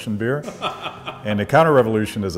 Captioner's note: laughing